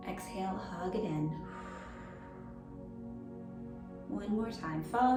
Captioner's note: pursed lips breathing